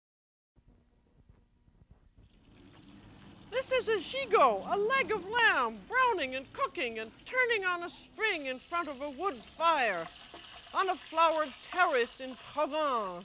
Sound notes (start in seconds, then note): 1.1 sizzling